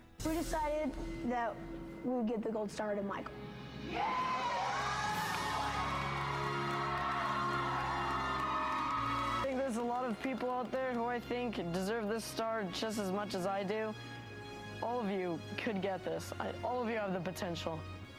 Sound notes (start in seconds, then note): 3.8 cheering